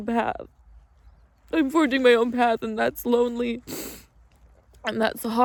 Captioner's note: sniffles